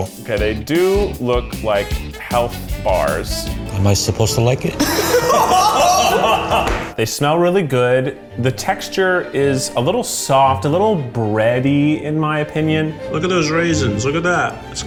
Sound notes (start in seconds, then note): 4.8 group laughs